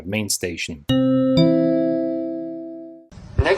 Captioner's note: train station chime